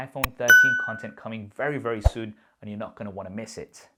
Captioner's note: air whooshing